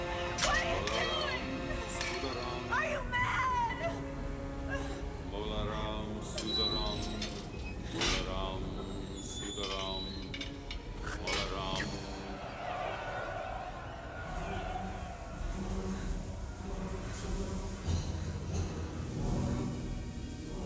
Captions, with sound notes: What are you doing? Are you mad? (Chanting in hindi) (Spits)